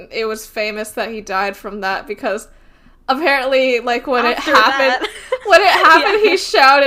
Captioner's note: both laugh